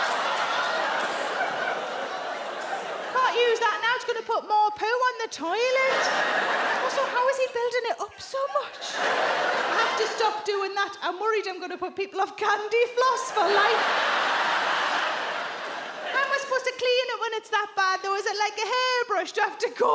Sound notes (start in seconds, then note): 13.2 audience laughs